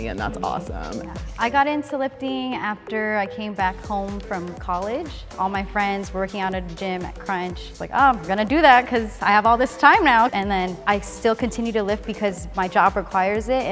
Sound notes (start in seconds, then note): none